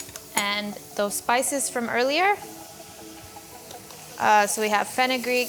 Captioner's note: mixture sizzles